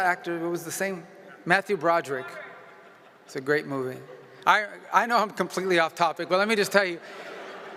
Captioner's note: laughter